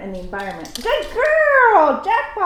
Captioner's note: click-click